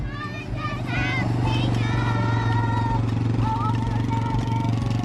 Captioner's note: 4-wheeler motoring